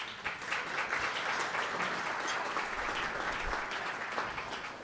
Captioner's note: audience applauding